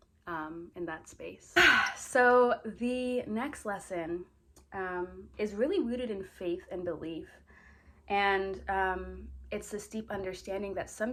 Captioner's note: sighs